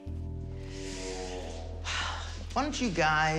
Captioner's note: sighs